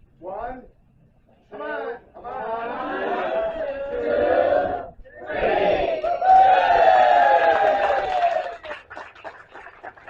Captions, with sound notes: One. Come on. - One, one, two, three. (group cheers) (applause)